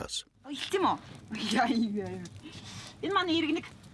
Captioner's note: foreign spoken audio